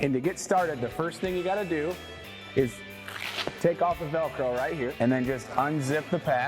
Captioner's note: velcro sound